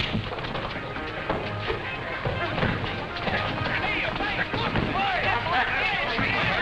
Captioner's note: overlapping chatter